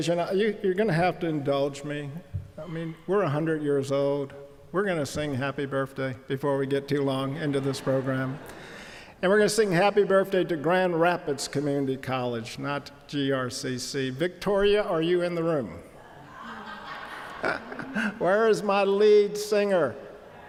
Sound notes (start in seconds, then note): 7.2 audience laughing; 16.1 audience laughing